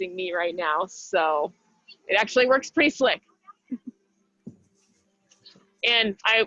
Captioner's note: chuckles